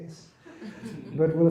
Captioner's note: laughter